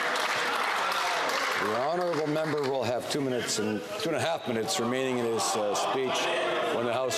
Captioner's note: applause